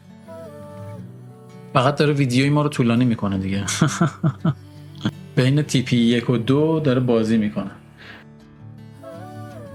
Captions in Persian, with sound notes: فقط داره ویدیوی ما رو طولانی می‌کنه دیگه [خنده] بین تیپی یک و دیکنه